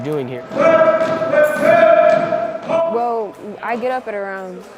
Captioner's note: yelling orders